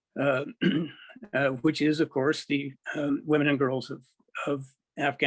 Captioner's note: clears throat